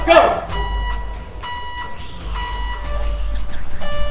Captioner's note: alarm beeping